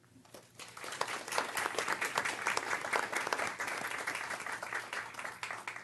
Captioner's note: applause